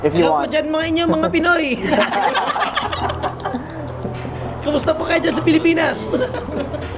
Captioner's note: speaks in Tagalog saying hi to the people of Philippines